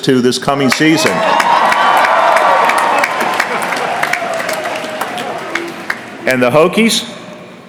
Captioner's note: cheering